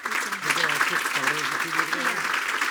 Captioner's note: speaking faintly